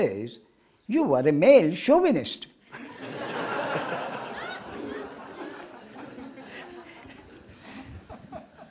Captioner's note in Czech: smích